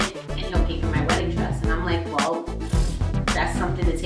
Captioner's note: pffft